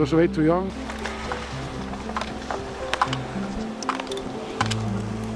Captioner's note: obstacles rattling